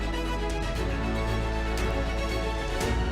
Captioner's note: none